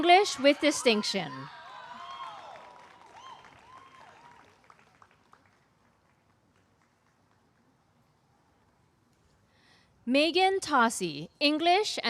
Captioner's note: applause